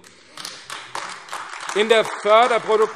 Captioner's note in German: Beifall AfD